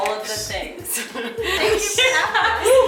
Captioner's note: laughs